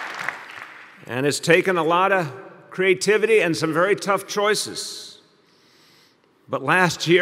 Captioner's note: applause